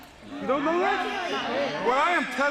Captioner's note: crowd chatter